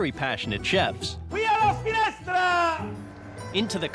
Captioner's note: more shouting